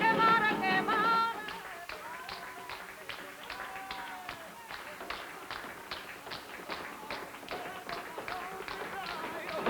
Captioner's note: children clapping